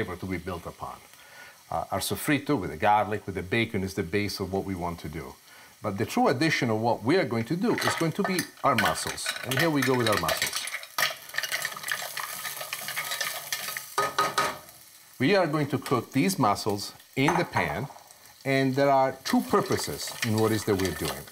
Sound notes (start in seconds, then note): 12.8 clattering